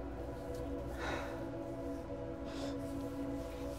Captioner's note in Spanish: Suspiros; Sollozos